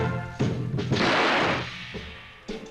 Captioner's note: gunshot